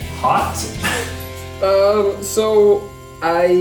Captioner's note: laughing